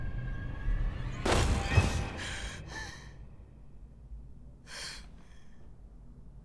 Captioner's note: thud; Qi'an gasps